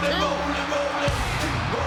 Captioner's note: audience cheers